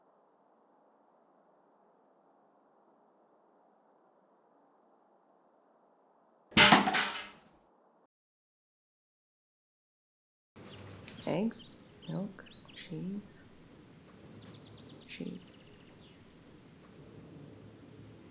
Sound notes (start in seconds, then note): none